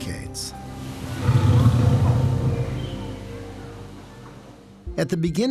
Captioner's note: low growl